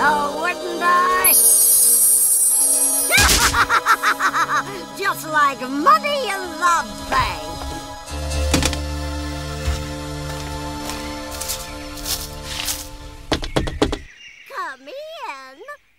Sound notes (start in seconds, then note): 3.1 laughing; 13.2 knocking